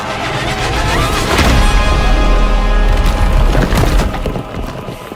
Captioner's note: crashing